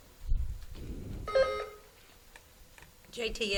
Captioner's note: buzzer beeps